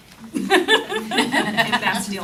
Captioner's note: laughter